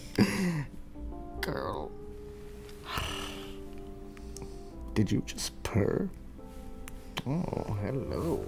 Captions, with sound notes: ...Girl." (purring noise) Did you just purr? Oh Hello...